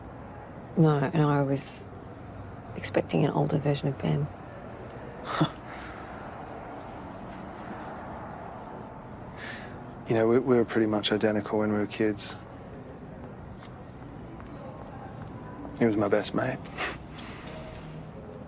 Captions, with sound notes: ..no. No, I was... ..expecting an older version of Ben. Huh. You know, we were pretty much identical when we were kids. He was my best mate. (LAUGHS)